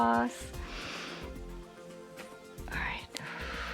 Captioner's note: inhales